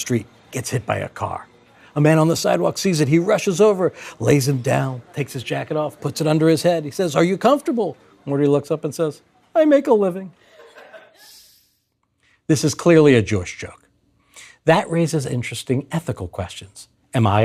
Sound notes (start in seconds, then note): 10.4 laughter